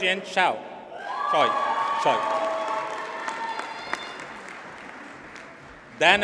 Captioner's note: audience cheers and applauds